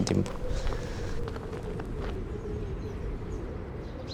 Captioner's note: wind blowing